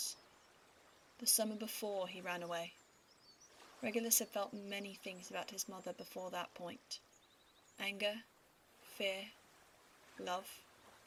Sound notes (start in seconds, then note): none